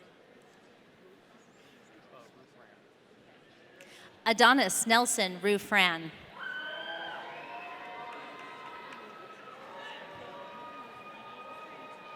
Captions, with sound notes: Adonis Nelson Rufran. (audience cheering)